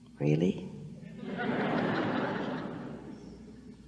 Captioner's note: the audience laughs